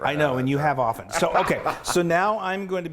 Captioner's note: laughing